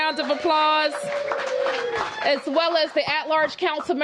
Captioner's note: applause